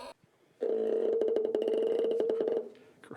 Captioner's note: low-pitched squeaking